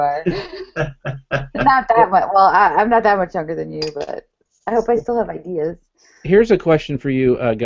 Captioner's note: laughs